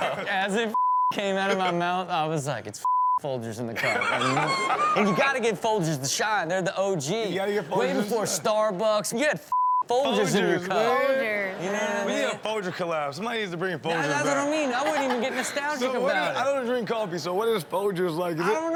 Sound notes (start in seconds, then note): 0.0 audience laughs; 2.8 beep; 3.8 Steelo laughs; 9.5 beep